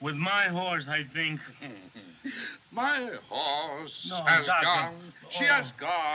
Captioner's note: chuckles; mutters in Spanish